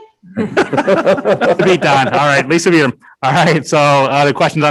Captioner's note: all laughing